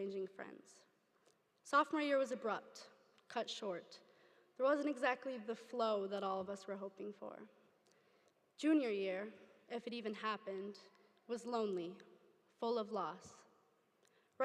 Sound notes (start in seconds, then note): none